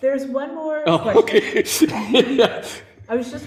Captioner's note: laughing